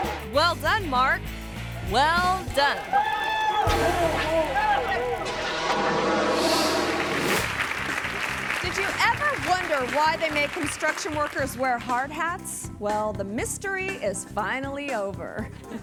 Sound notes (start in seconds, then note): 3.4 screaming; 6.7 audience applauding; 15.6 audience laughing